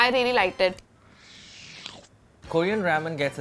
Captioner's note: slurping